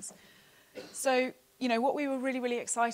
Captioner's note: coughing